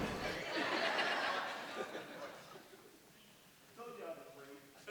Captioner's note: audience laughs